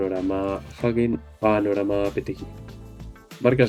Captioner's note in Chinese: 英语